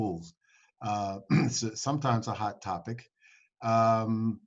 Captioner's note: clears throat